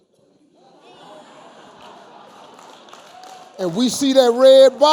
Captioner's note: crowd applauding